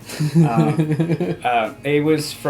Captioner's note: giggles